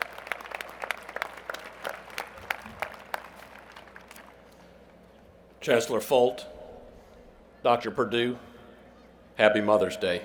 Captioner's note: applause